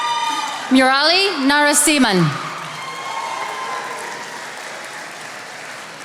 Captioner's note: attendees applauding